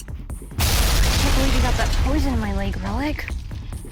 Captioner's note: bomb banging